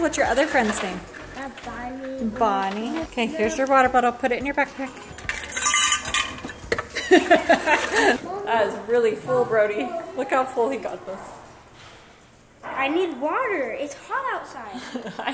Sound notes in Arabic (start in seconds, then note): 5.3 طقطقة الجليد; 6.9 يضحك